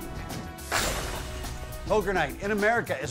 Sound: smash sound

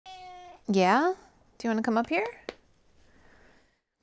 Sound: meow

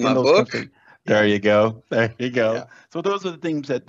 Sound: laughs

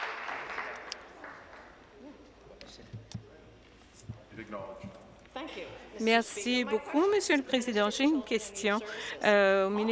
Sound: applause

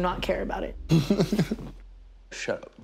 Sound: giggles

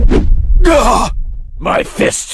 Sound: astonished

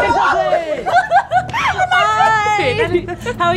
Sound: both laughing

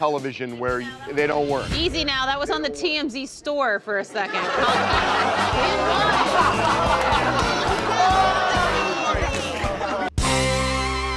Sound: laughter

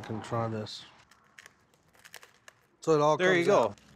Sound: shelling

